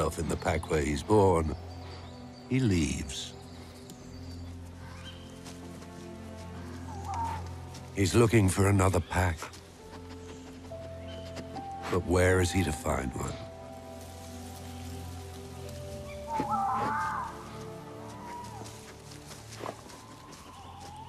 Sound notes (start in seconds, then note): 9.6 sniffing; 16.0 bird cawing